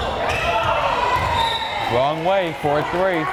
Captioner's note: whistle blares